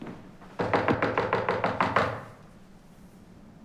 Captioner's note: knocks